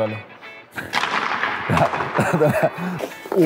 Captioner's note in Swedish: Skratt